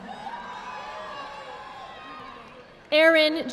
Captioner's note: audience applauding